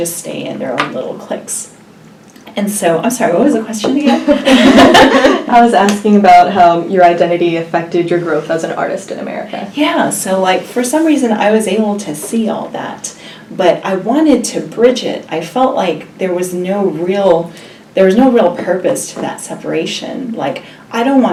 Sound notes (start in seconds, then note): 4.2 laughs